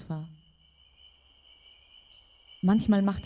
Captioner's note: chirping